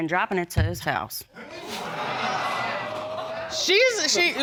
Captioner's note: audience exclaims